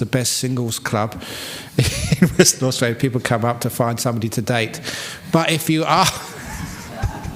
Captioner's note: laughs